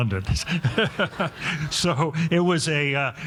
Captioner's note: all laughing